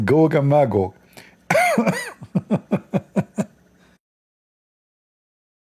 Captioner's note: Ketawa